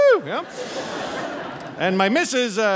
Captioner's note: audience laughing